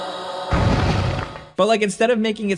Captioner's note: incubus thudding